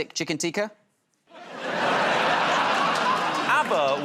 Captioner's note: laughter